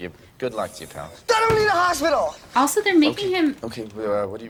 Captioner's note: yelling